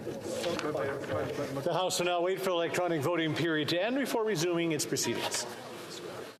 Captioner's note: calling of recorded vote